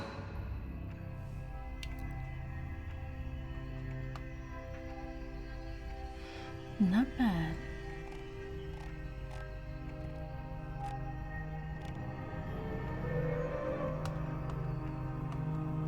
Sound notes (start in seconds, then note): 1.2 pensive music; 8.5 mouse scrolling; 12.8 foreboding music